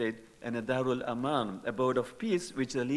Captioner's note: speaking in foreign language